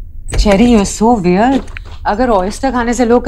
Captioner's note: Door opens